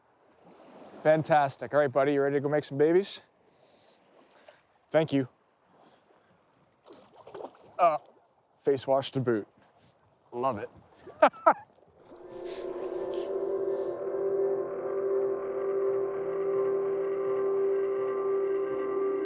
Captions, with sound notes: Fantastic, alright buddy, you ready to go make some babies? Thank you. Oh, face washed, to boot, love it. (chuckles) (light ethereal music)